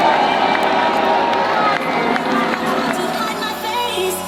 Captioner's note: crowd cheers